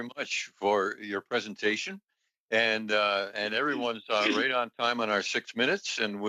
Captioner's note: speaking Indigenous Language